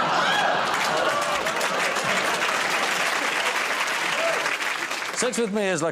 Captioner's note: laughter